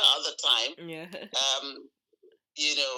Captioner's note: laughing